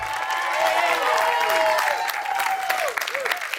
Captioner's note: cheers and applause